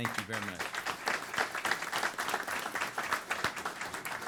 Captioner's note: applause